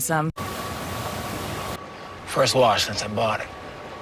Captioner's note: car wash noises